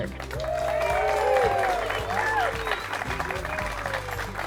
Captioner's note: crowd cheers